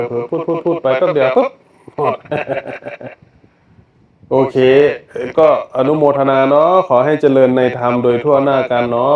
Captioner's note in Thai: เสียงหัวเราะ